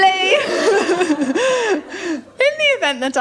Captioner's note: laughter